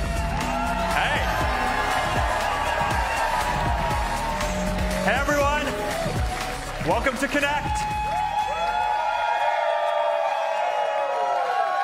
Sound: applause

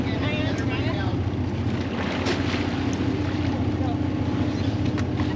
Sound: boat engine idling

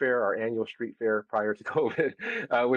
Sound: laugh

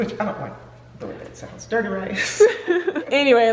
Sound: laughing

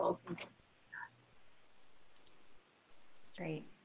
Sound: microphone sputters

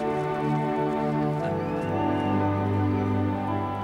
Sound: peaceful music; chuckles

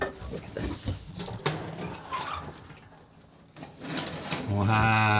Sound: oven creaking

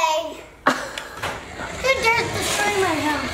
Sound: laughs

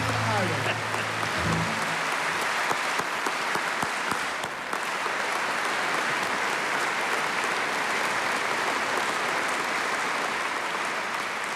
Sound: applause

